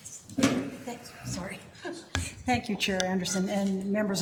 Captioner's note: chuckles